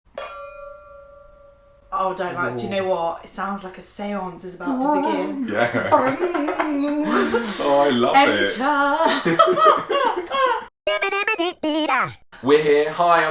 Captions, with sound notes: (glasses clinking) - Oh, do you know what? It sounds like a seance is about to begin. - Bong, yeah. - Bong. (laughter) - Oh I love it. - Enter. (laughter) (robotic scat tune) - We're here.